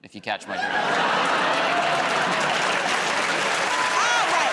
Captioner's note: laughter, applause